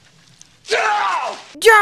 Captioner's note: scream